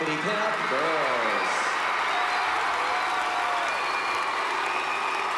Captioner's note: applause and cheering